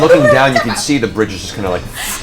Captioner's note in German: Gelächter